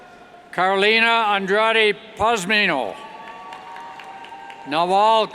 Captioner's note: cheers